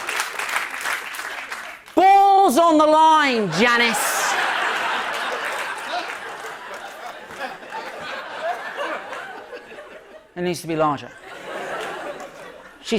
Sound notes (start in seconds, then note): 3.8 laughter